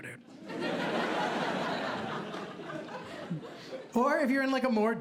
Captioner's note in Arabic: ضحك